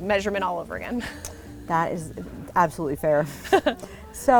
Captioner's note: laugh